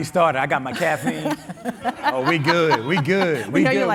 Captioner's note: all laughing